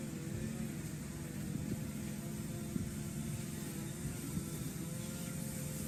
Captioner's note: weed whacker humming continues